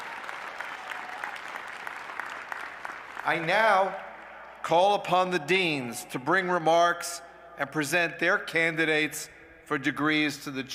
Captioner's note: applause